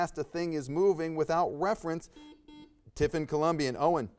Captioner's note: buzzer buzzes